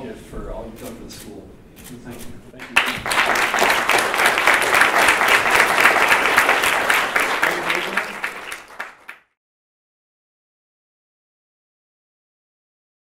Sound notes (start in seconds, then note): 2.6 applause